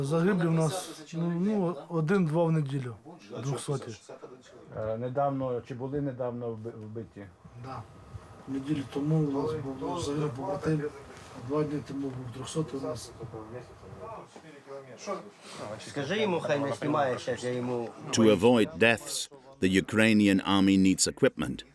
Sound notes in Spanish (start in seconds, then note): 15.1 audio hablado en ucraniano